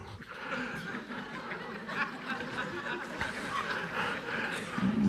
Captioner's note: audience laughing